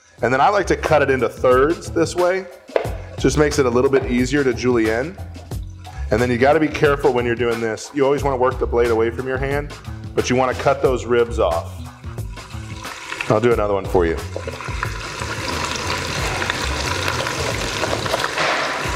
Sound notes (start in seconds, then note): 14.2 sizzling